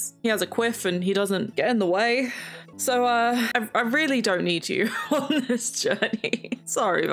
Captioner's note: laughs